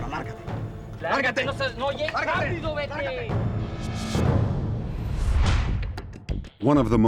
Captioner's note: speaking spanish